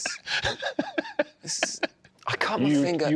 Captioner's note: ejiofor laughs